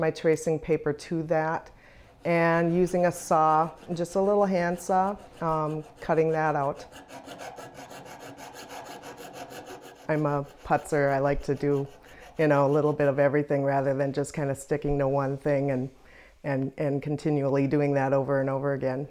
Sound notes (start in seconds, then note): 7.6 soft scraping